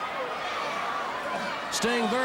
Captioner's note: crowd cheering